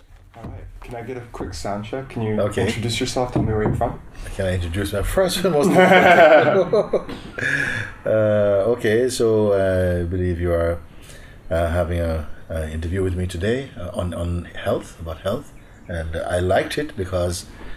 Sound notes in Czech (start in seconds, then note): 5.6 Smích